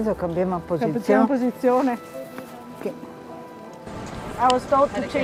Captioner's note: speaking in foreign language